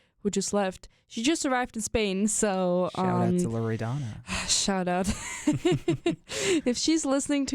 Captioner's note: both chuckle